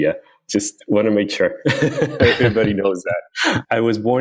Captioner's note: laughs